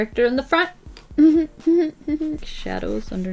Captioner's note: suppressed, sarcastic laugh